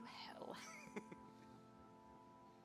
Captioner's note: laughs